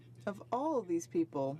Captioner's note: speaking French